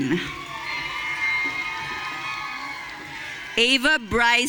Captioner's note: audience cheering